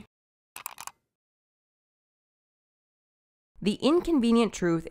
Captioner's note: keyboard clicking